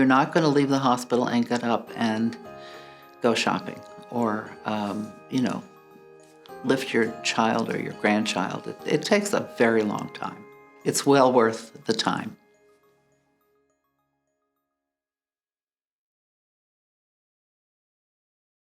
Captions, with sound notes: - You're not going to leave the hospital and get up and go shopping or, you know, lift your child or your grandchild. It takes a very long time. It's well worth the time. (chimes)